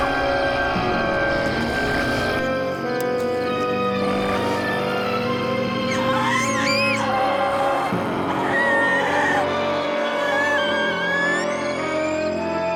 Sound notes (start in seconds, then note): 4.2 growling; 6.1 screaming